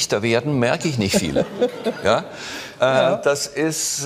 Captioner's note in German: Lachen